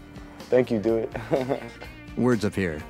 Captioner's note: laughs